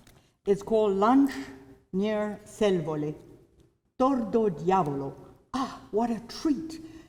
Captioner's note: non-english